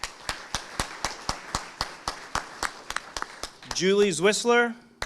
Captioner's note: audience applauding